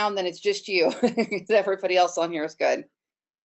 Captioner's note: chuckles